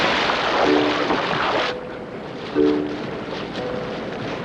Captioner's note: none